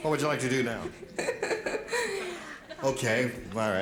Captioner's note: laughs